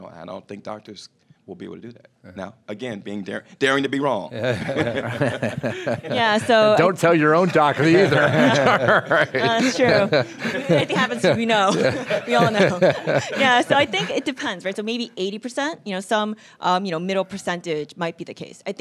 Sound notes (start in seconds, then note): 4.3 laughing; 9.1 laughing